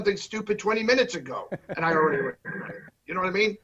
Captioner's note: laughs